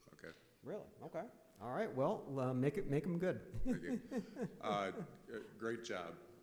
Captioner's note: laughing